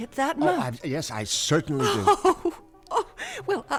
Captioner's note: chuckling